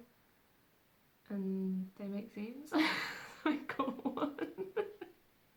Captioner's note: laughing